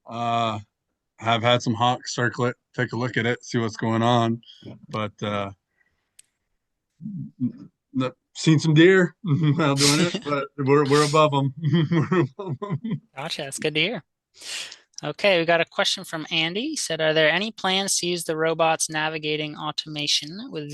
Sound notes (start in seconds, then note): 10.8 speaker chuckles